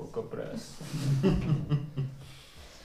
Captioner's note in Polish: śmiech